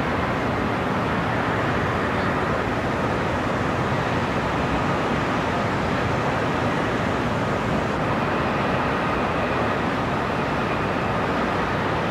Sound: city sounds and distant cars

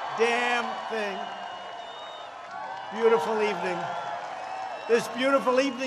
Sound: applause

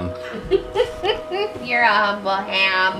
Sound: laughing

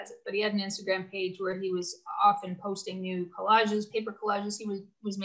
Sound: none

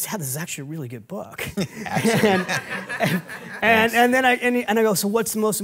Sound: and Audience laughing

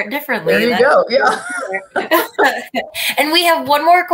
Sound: laughter

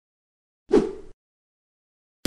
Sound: woosh

